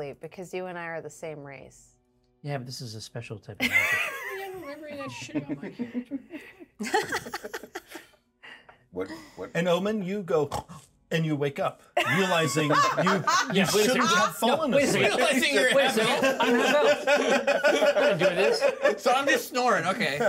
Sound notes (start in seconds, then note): 4.8 laughs; 4.8 speaker laughs; 10.5 snores; 12.5 laughs; 15.2 speaker laughs